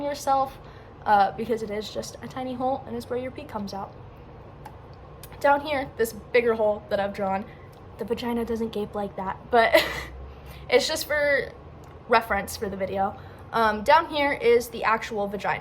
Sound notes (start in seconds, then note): 6.8 whispers; 9.8 laughs